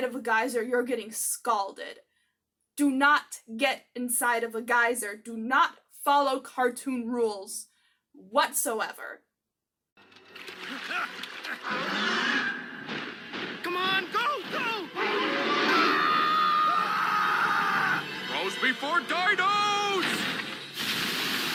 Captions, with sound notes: geyser, you're getting scalded. Do not get inside of a geyser. Do not follow cartoon rules whatsoever. [pterodactyl screeching] C'mon, go, go! [pterodactyl screeching] [all screaming] Bros before dinos!